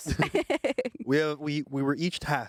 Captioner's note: everyone laughs